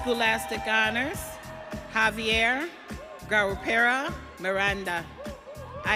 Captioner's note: audience cheering